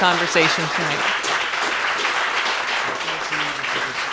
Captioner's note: applause